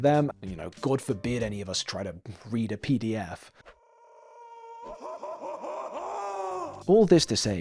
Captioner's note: screaming SFX